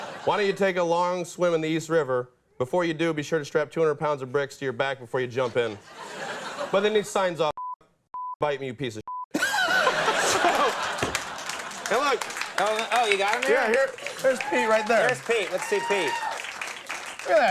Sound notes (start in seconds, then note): 9.3 audience laughs